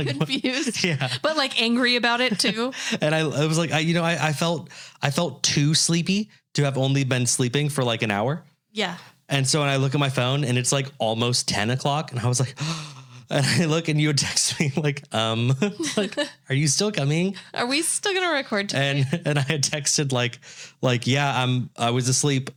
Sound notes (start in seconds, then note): 12.5 gasps